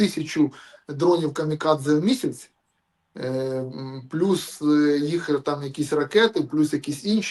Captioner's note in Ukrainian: сопіння